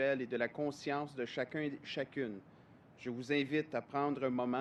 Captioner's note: speaks French